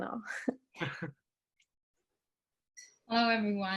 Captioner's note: chuckles